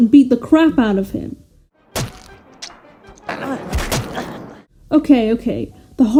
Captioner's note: cartoon punching noises